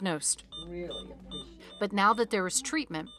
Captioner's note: device beeping